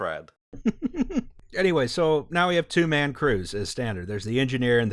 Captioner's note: laughter